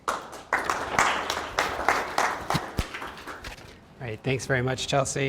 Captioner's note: audience clapping